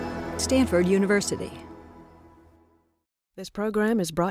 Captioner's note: dramatic electronic music; voiceover